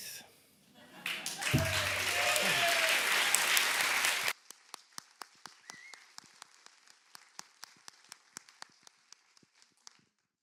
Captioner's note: applause